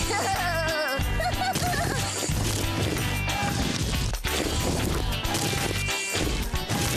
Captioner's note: laughing